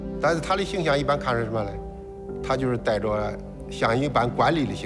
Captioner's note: hablan un idioma extranjero